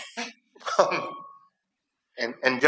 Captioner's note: chuckling